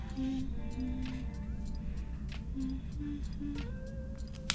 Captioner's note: humming